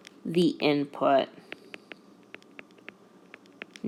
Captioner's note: typing Sound